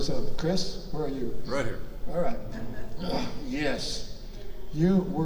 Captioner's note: quiet laughter from audience